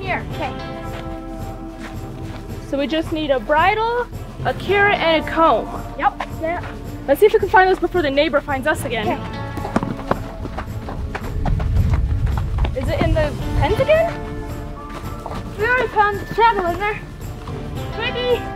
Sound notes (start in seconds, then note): 1.1 upbeat music; 9.1 footsteps